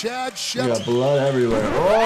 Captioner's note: tape scratching